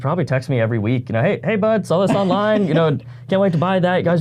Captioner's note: laughs